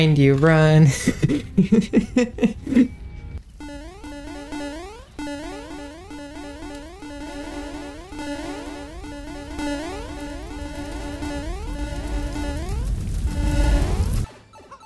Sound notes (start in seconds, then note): 1.0 nervous self defense laughter; 3.6 repeated overlapping mario jump sounds; 8.1 slowly rising crackling fire